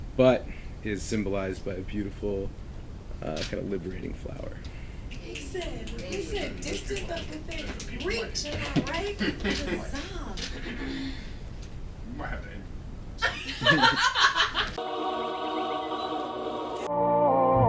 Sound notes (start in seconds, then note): 13.2 laughter